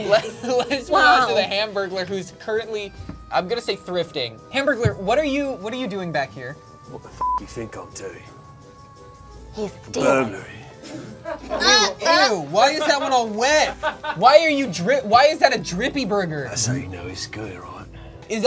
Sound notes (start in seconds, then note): 7.2 beep